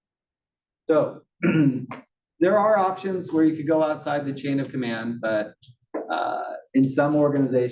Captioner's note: cough